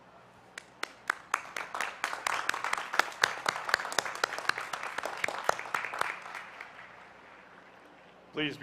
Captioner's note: applause